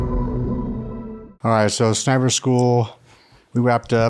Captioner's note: none